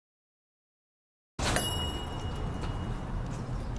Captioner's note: bell ringing